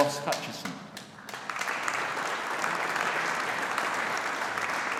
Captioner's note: audience applauding